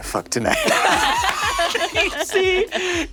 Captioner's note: players laughing